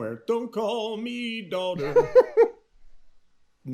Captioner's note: laughing